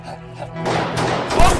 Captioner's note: gunshots